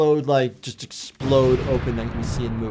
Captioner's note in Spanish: explosión en auge